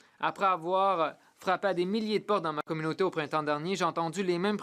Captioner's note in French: voix de l'interprète